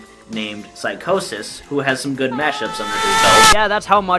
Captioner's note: laughs, gets louder and more distorted